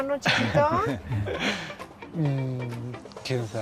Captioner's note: speaks Spanish